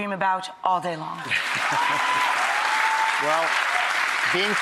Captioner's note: applause